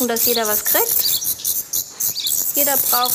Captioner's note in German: Aufgeregtes Zwitschern